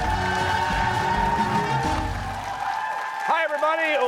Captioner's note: cheers and applause